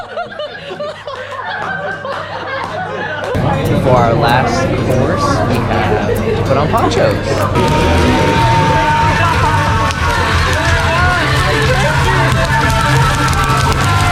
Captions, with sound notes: For our last meal, we have to put on ponchos! [Yelling]